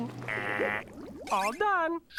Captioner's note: imitating alarm